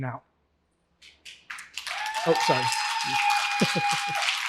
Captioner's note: applause